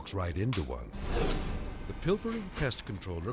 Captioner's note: dramatic whoosh